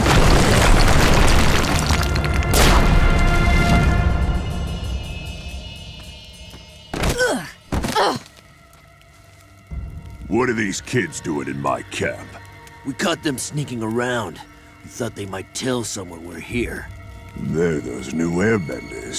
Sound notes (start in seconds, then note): 7.8 groaning